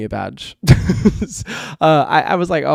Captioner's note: laughs